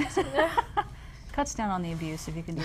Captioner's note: laughing